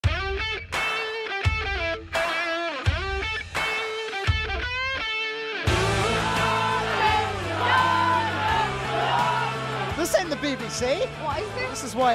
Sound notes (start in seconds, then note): 0.2 upbeat music; 5.7 crowd chanting